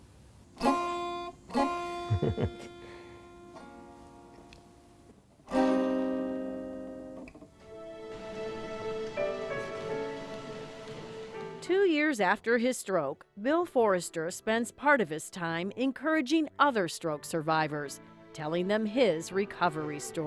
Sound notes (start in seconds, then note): 2.0 laughter